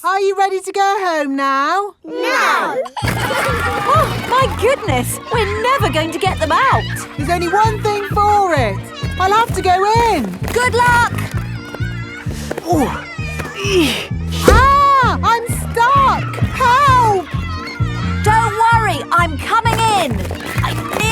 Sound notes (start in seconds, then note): 3.1 giggling; 12.7 grunting